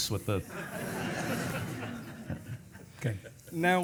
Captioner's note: audience laughing